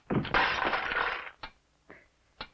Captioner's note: smashing